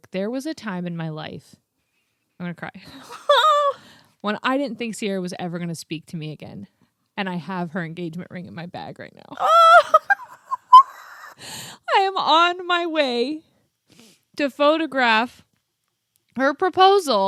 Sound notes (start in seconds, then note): 2.9 laughs; 9.4 both laughing